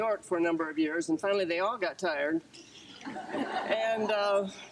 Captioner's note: group laughter